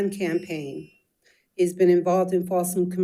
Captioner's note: timer beeps